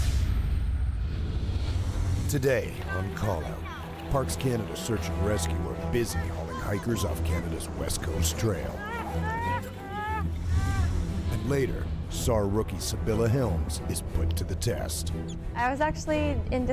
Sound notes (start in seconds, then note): 12.5 voiceover